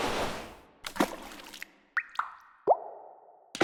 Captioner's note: drips